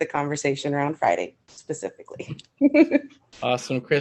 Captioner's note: laughs